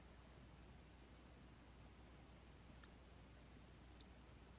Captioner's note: mouse clicking